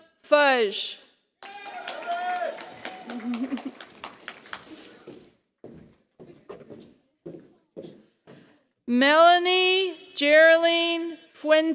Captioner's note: applause